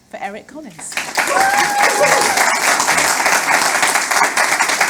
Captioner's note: audience applauding